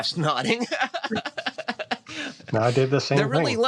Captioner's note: laughs